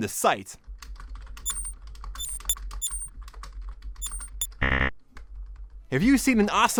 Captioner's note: typing and computer sounds